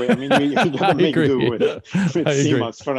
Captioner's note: laughing